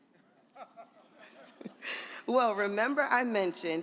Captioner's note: audience laughs